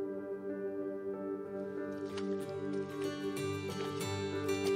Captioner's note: Water splashing